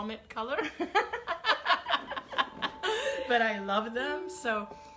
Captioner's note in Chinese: 笑聲